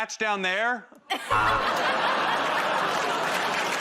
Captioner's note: buzzer buzzes; laughter